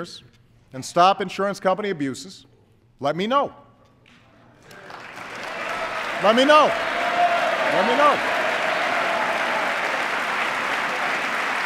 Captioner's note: applause